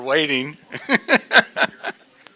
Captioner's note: laughter